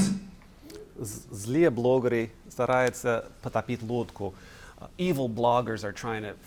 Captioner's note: speaking russian